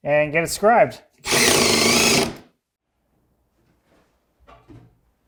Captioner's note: drill whirring